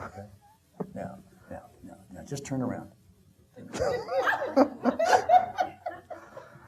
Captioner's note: audience laughing